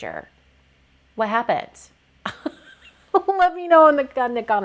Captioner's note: laughs